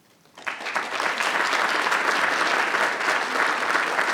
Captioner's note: everyone applauding